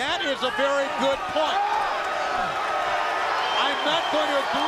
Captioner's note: crowd cheering